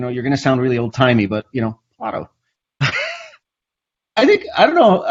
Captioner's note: laughs